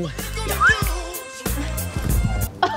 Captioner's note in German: Pfiff